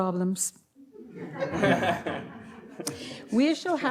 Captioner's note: audience laughs